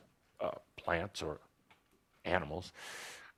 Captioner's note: none